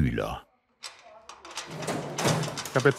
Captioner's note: conversations in the background